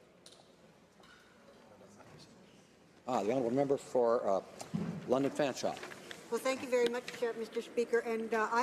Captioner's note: speaking French